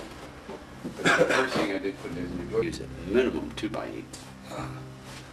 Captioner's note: video glitches